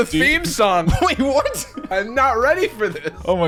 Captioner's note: laughing